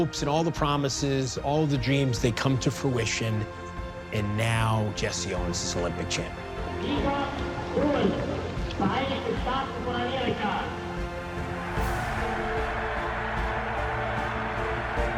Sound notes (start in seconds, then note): 5.8 speaking in German; 11.2 cheers and applause